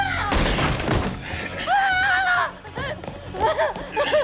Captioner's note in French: Juliette crie